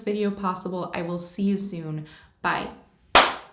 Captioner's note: clap sound